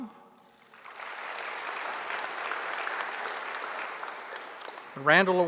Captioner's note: audience applauding